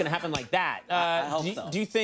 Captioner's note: Conan snaps fingers